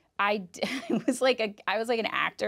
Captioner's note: chuckles